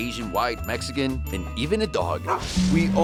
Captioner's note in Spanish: ladrar